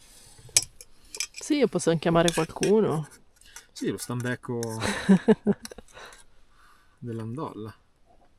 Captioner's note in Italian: risate